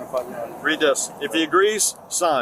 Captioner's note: speaking in Spanish